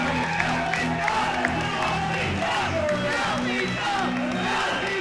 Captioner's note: cheering; crowd